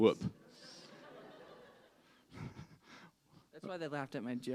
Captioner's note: laughter